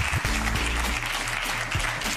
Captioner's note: gallery claps; upbeat music